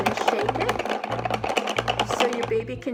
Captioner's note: rattling sound